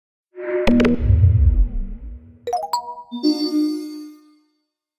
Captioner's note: electronic sound effects